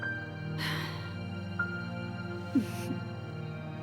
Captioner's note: Freddie sighs